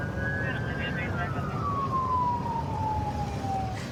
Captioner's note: police sirens blaring; dispatch chatter